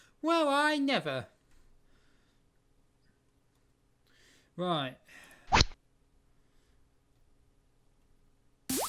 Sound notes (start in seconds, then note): 5.5 rod sound